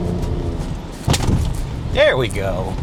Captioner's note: truck thuds